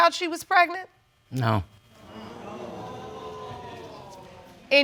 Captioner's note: audience exclaims